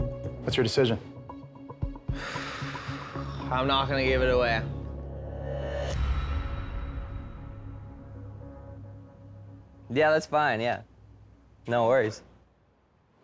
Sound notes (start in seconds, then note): 2.1 exhales sharply